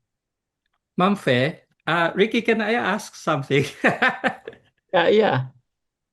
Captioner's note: laughs